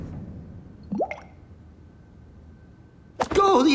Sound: blows bubble

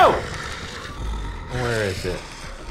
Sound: monstrous growling

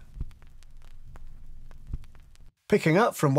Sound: record needle crackling

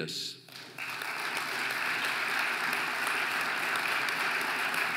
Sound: audience applauding

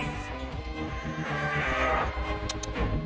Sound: grunts

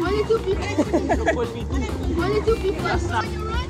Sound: laughing

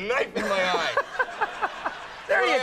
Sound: Conan chuckling

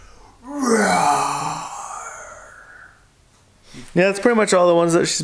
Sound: roaring

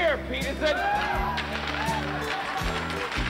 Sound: players whoop; hockey sticks clacking

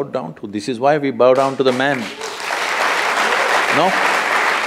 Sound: applause

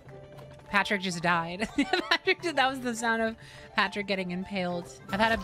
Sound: laugh

